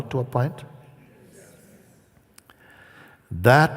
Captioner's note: Voces de la audiencia